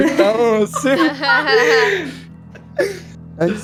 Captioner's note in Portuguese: risadas